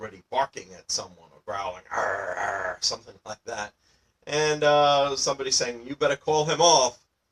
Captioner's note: growling sounds